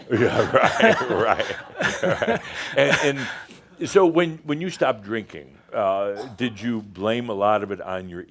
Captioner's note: they chuckle